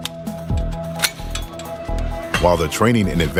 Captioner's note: trigger clicking